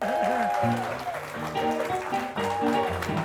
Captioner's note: crowd cheering; upbeat music